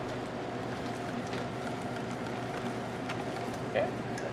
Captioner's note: none